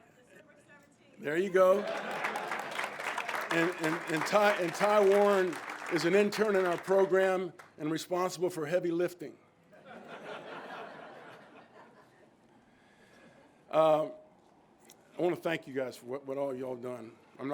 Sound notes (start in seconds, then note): 1.3 crowd claps; 9.8 all laughing